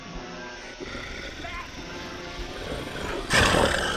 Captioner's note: Brad growling